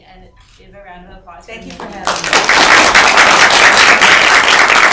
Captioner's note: applause